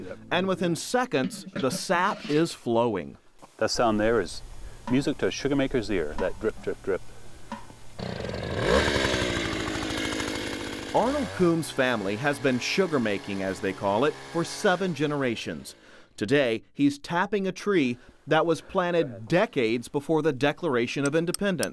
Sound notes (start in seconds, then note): 8.0 motor starting